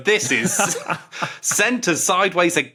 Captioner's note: laughs